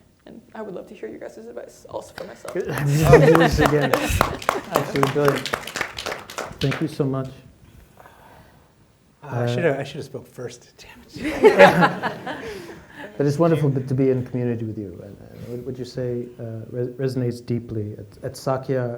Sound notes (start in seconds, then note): 2.2 applause; 11.2 laughter